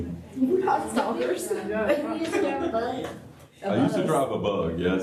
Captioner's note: laughter